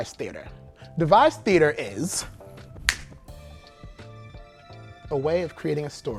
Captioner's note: snaps fingers